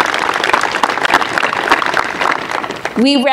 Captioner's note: applause